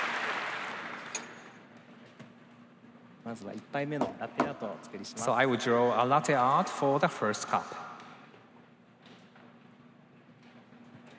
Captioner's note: cheers and applause